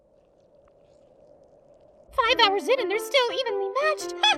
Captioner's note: none